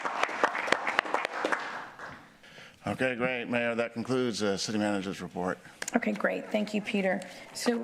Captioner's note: applause